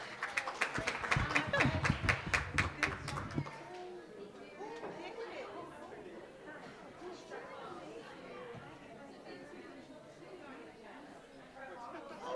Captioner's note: applause